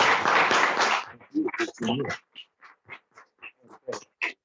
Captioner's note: applause